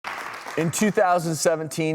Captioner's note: audience clapping